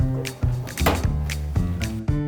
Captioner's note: door thumping; upbeat music